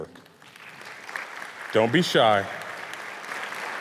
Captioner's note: audience applauds